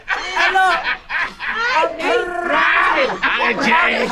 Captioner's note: man laughing